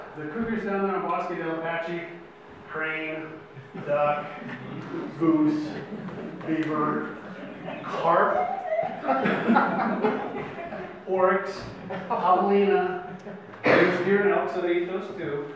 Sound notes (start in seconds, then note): 8.8 audience laughs